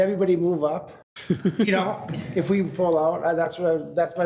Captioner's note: group laughs